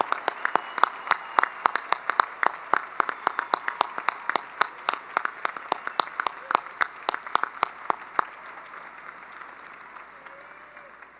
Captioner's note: cheering and applause